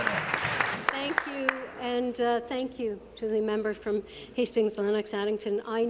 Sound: applause

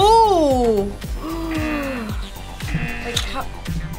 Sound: buzzer rings

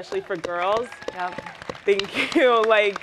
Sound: applause

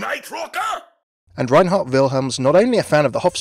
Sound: voiceover

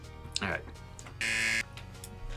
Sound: buzzer

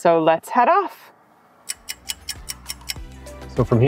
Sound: stopwatch ticking

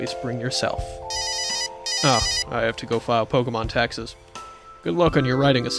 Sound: phone Rings

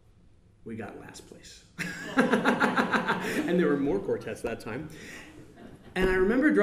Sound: laughs

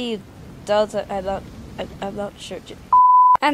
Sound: confusion Noises

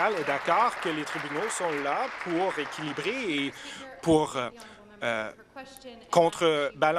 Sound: applause

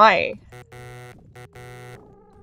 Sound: Sonic 3 menu error sound

